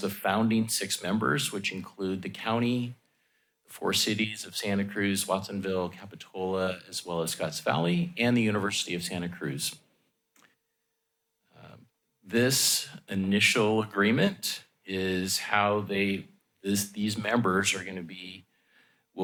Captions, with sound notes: the founding six members, which include the county, four cities of Santa Cruz, Watsonville, Capitola, as well as Scotts Valley and the University of Santa Cruz. [pause] This initial agreement is how these members are gonna be